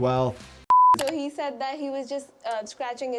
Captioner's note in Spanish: clic